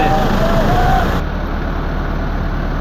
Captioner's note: people's noise